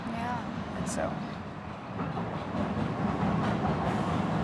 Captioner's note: train rumbling